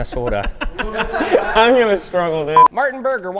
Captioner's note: laughs